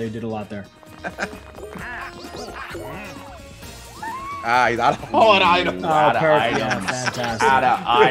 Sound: laugh

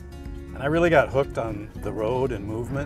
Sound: none

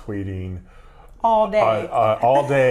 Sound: laughs

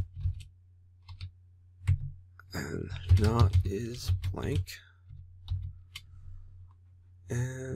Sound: typing; typing

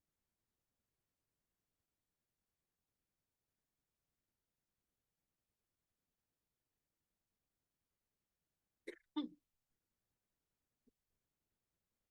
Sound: audio cuts out

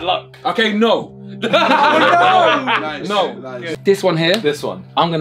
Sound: all laughing

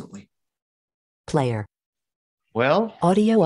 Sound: automated Voice

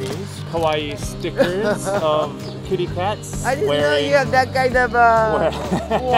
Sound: laughter

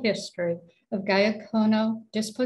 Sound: speaking cayuga

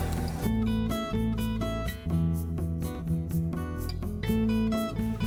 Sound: rummaging

